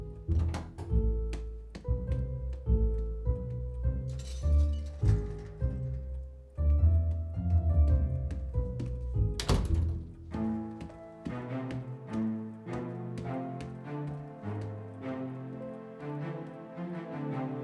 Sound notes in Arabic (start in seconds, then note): 4.2 أصوات أدوات; 9.2 طقطقة باب